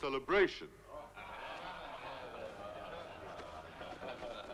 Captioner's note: crowd murmuring